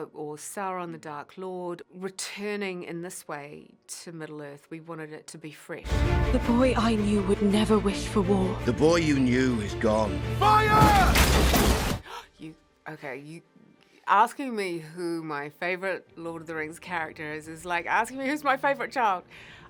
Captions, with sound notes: or Sauron, the Dark Lord, returning in this way to Middle Earth, we wanted it to be fresh. - The boy I knew would never wish for war. - The boy you knew is gone. Fire! - [GASP] You-- Okay-- You-- Asking me who my favourite Lord of the Rings character is, is like asking me who's my favourite child?